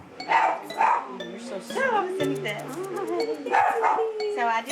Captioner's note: chatter; dog barks